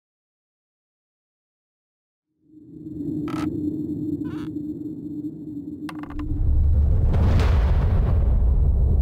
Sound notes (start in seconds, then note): 0.0 creaking; 5.9 rumbling